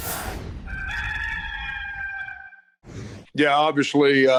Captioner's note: roster crowing